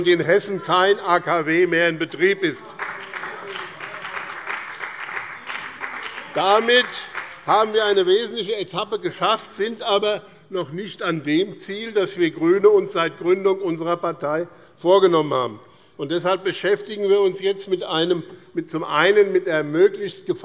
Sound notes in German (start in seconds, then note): 2.3 Beifall bei dem BÜNDNIS 90/DIE GRÜNEN und bei Abgeordneten der CDU